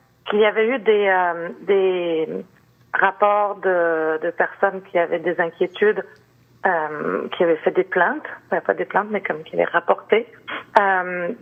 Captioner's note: speaking French